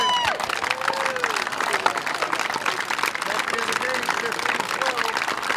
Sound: applause

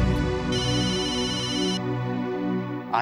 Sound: phone rings

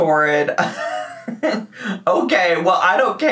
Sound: laughing

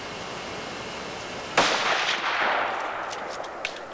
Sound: gunshot

